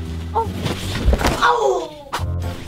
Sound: hitting floor

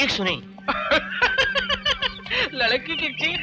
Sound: laughing

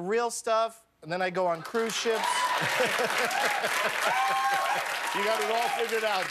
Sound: cheers and applause

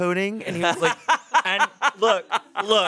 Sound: laughs

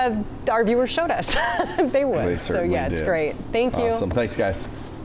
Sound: laughter

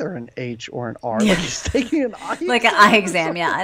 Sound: laughs

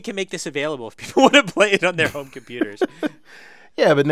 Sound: laugh

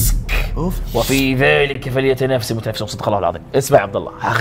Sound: reciting Quran

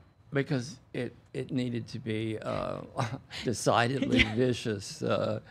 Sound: laughs

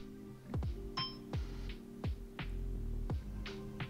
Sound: soft ping

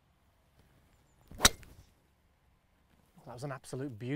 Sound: club striking ball

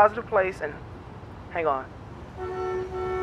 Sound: horn honks

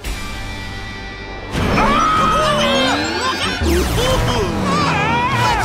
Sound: screaming

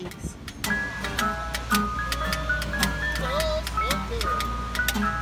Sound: ice-cream truck approaching

